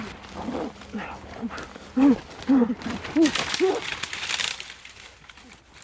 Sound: muffled grunting

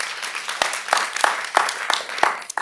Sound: applause

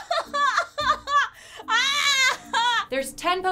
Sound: sobbing

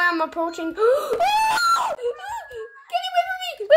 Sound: screams

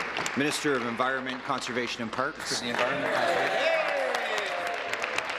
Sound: applause

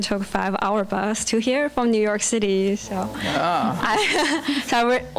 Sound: laughing

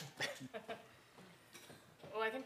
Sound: laugh

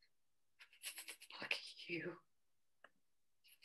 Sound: whisper

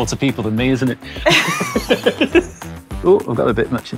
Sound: both laugh

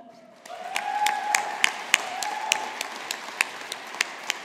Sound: audience applauding

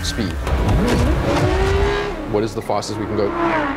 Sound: engine revving

